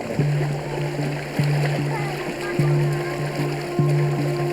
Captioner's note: water splashing